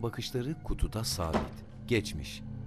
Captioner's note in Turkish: Kapı kapanma sesi